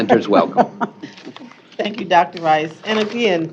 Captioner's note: laughing